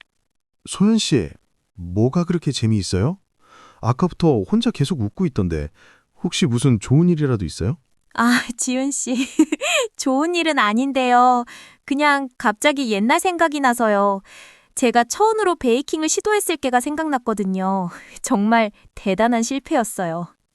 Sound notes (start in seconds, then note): 9.1 chuckles